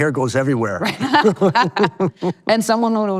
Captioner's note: both laughing